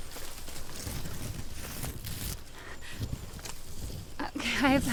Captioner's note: footsteps crunching